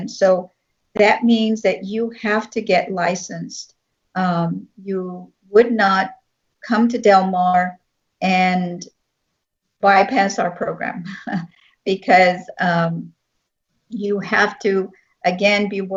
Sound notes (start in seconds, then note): 11.0 laughing